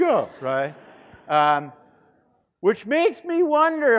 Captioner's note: students laughing